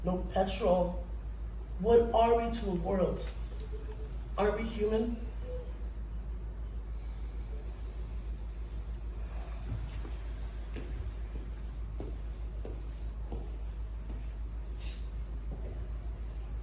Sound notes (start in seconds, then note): 6.9 inhale; 9.0 exhale